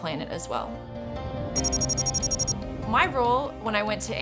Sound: wind blowing

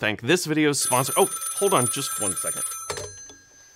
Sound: phone rings

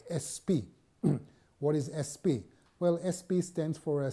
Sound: cough

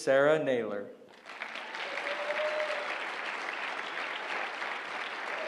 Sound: applause

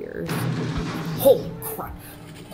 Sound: Darkversion Yelling from right

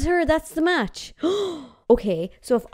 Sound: gasping

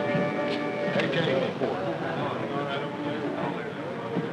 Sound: all chattering

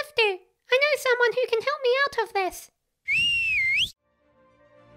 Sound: whistles

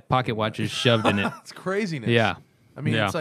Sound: laughter

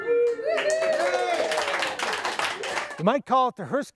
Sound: cheering and clapping

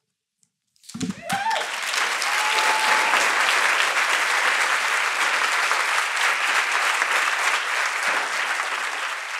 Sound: cheers and applause

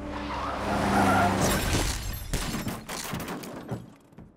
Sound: tires screeching; glass shattering

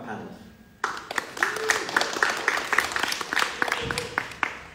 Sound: everyone clapping

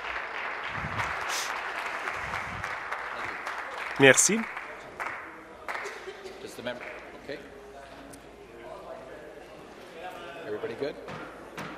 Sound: applause

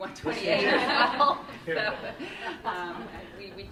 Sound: laughter

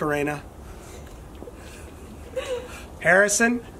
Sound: laughing in the background

